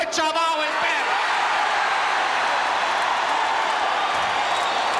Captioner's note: audience cheering